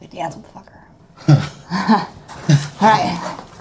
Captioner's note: both chuckling